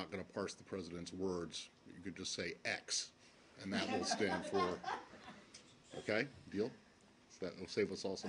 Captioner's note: laughter